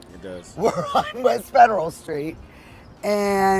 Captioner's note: chuckling